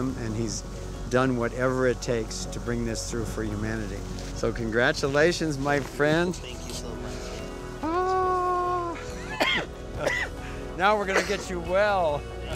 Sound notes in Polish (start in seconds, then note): 9.0 kaszel; 9.1 śmiech